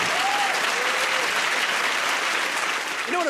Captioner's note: applause